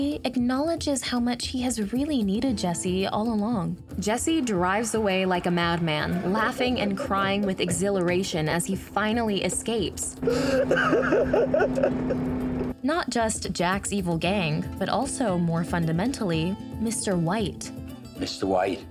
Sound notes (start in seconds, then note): 10.2 laughs and sobs